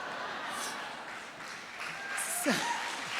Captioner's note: audience chuckles; audience applauds